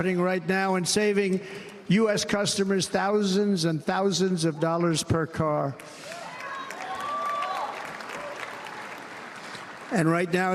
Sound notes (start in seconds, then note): 1.4 cheers and applause